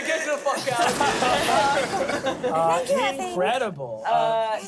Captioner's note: everyone laughs